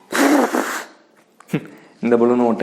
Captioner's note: giggles